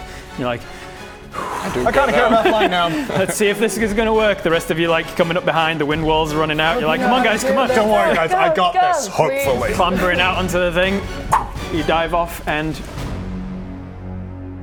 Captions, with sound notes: and you're like.. I kind of care about flying now Let's see if this is going to work the rest of you like coming up behind the Wind Wall's running out you're like come on guys, come on - Don't worry guys, I got this! - Go! Go! Go! Hopefully. Clamoring out onto the thing *pop!* you dive off and....